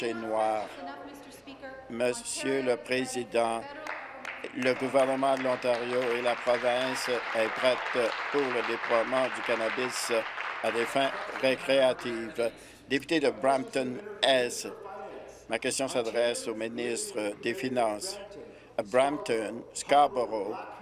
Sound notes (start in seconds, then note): 13.5 applause